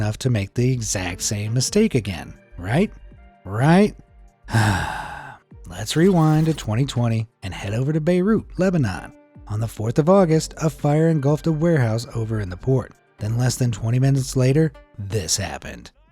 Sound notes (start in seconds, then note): 4.5 sighs